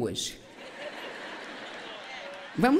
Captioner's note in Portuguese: público rindo